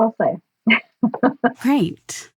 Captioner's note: both giggles